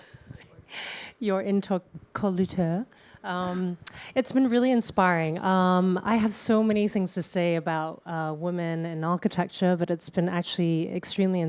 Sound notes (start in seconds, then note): 1.1 chuckles